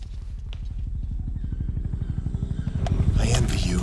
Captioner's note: helicopter flutters